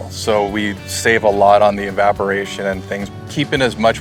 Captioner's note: none